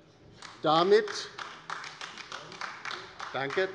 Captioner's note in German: Beifall bei der LINKEN